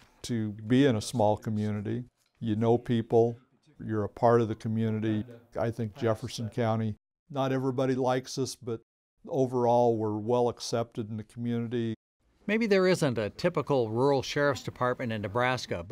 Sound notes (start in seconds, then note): none